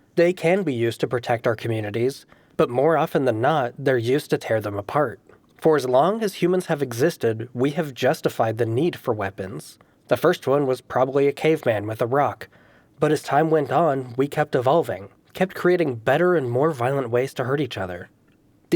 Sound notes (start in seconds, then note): none